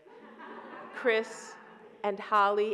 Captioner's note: audience laughs